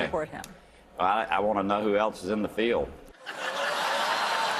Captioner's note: laughter; applause